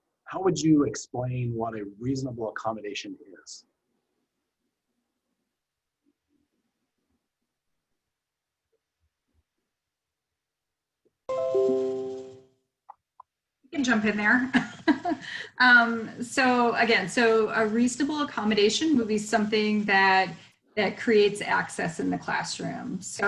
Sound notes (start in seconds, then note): 11.3 bell rings; 14.8 laughs